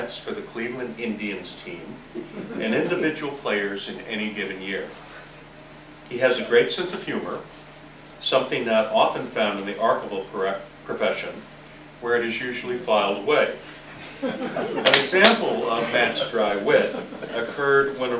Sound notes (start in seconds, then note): 13.9 laughter